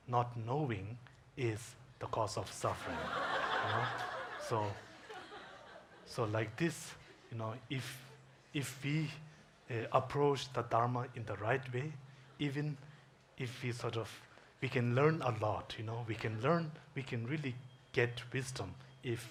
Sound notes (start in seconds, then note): 2.7 audience laughs